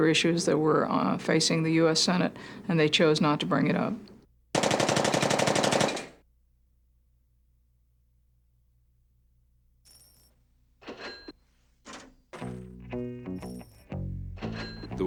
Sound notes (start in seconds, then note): 4.5 automatic weapon fire